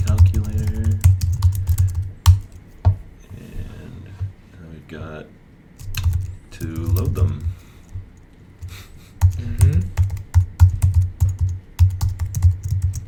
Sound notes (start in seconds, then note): 8.6 chuckles